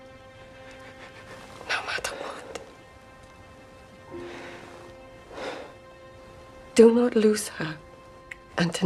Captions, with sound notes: (Anthony breathes shakily) - No matter what. (Anthony sighs) - Do not lose her, Anthony.